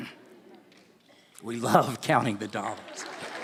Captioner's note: applause